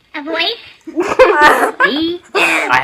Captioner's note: laughter